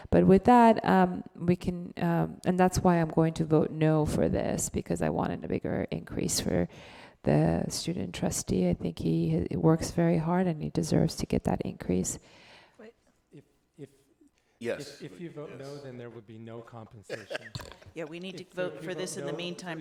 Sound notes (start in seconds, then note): 17.0 laughs